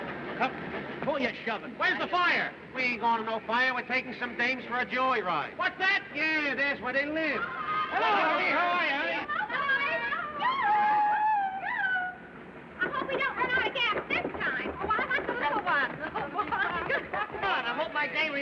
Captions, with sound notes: WHAT? WHERE'S THE FIRE? WHO ARE YOU SHOVIN'? WE AIN'T GOIN' TO NO FIRE. WE'RE TAKIN' SOME DAMES FOR A JOYRIDE. WHAT'S THAT? YEAH. THERE'S WHERE THEY LIVE. - [ Girls Yelling ] - HELLO. HOW ARE YOU, HONEY. [ All Chattering ] YOO-HOO! I HOPE WE DON'T RUN OUT OF GAS THIS TIME. OH, I WANT THE LITTLE ONE. COME ON. I HOPE MY DAME REMEMBERS ME.